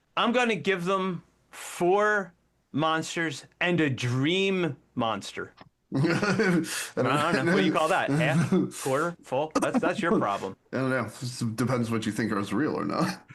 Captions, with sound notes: I'm gonna give them four monsters and a dream monster. (Laughing) I don't know what you call that, half, quarter, full? That's your problem. I don't know, depends what you think is real or not.